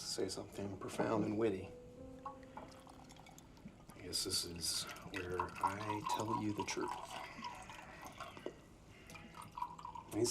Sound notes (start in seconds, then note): 2.3 liquid pouring